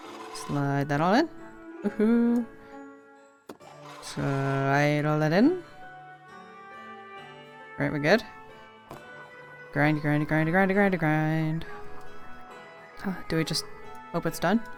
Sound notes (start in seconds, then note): 11.2 sing songy